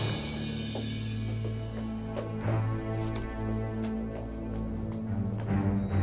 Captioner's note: drum; footstep